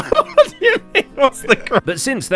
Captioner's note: laughs